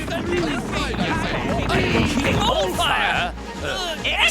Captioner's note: squabbling